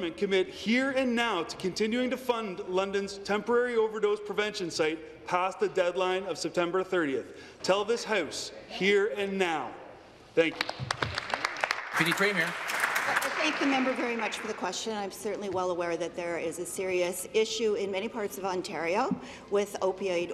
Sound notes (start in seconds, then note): 13.7 applause